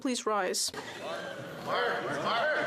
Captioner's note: speaking French